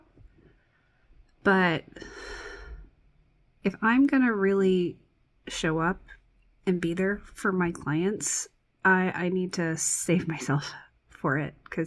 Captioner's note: exhales deeply